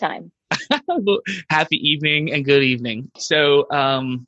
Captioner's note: laughs